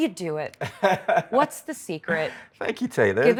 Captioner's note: Martin laughs